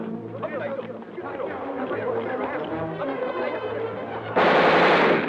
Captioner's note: Japanese soldiers chattering; gunfire blasts rapidly